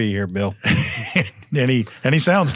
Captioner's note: laughs